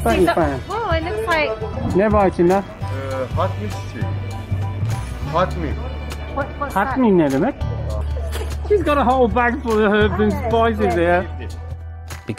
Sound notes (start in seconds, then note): 1.6 speaks foreign language